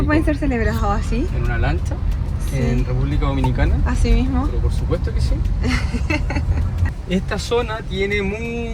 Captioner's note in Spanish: risas